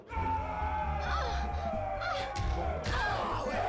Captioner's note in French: cris, gémissements